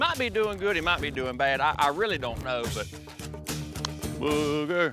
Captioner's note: claps hands